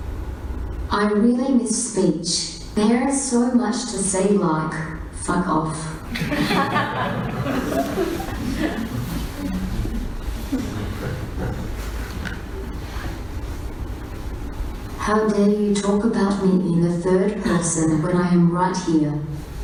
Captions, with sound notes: I really miss speech. There is so much to say, like fuck off. (Audience laughs) How dare you talk about me in the third person when I am right here.